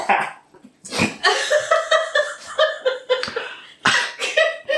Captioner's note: cacklin an gigglin